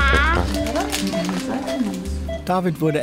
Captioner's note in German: Piepen